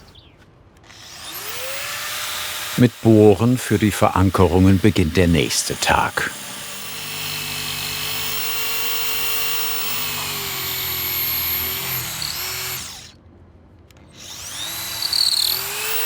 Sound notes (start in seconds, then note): 0.0 birds chirping; 0.9 buzzing